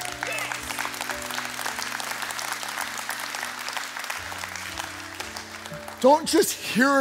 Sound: congregation cheering and applauding

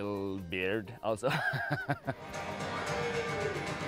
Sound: laughs; lively music

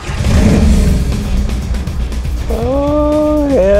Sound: engine starts; heavy metal music playing

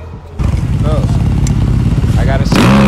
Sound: motorbike engine revving

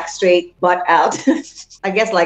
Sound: laughing

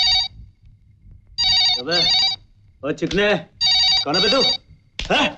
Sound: phone ringing; phone ringing

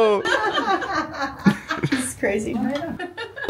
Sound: everyone laughs happily

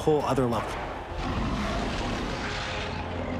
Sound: roaring

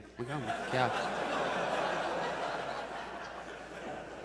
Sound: audience laughs

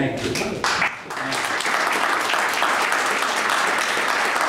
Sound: applauding

